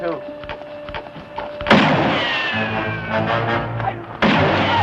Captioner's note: gunfire